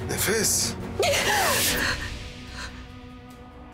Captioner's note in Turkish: none